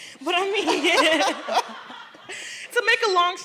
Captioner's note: laugher